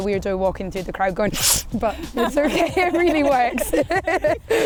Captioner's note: sniffs; laughing